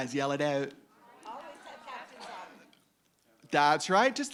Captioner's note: audience yelling